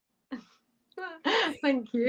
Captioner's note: laughter